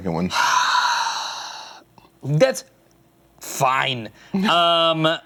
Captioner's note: sighs